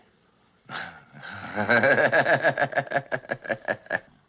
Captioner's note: both laughing